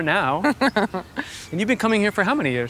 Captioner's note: Gwyneth chuckling